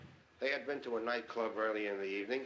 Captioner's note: radio Announcer